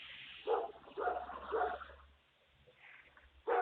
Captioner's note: dog barking